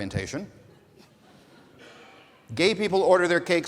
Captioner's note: audience laughing